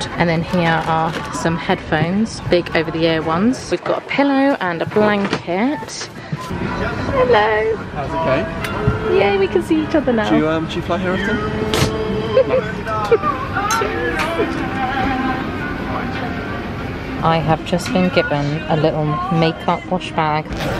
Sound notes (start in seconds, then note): 12.2 giggles; 13.6 glasses clink